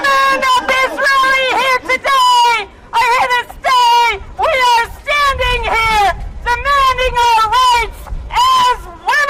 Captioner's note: applause